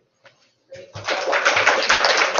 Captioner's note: end Presentation, Applause